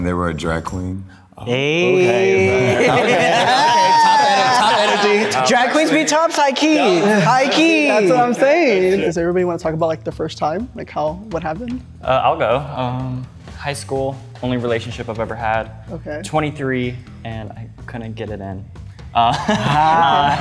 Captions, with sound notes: They were a drag queen. - "They"! - Okay, okay! Top energy, top energy! (group laughing) - Drag queens be tops, high key! - That's what I'm saying! Does anyone wanna talk about their first time? Like how- what happened? - I'll go. High school. Only relationship I ever had. - Okay. - 23 and I couldn't get it in.